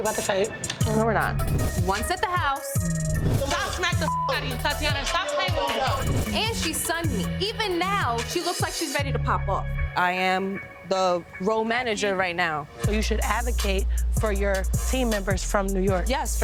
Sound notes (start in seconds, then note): 2.8 beeps